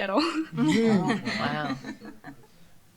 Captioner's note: laughter